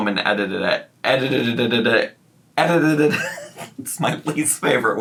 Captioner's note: stuttering